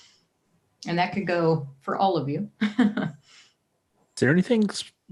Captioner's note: chuckles